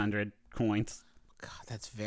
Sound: whispering

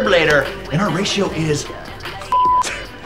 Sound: beep

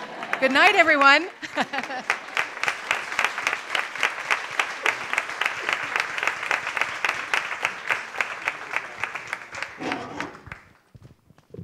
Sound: applause

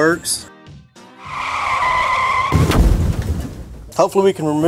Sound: car crashing

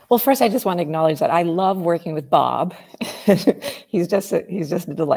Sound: chuckles

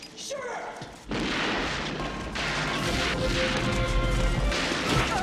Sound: guns fire

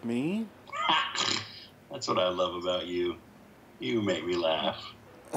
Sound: laughs

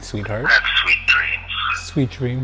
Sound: recorded Voice

